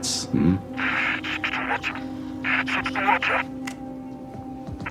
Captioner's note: static; over comms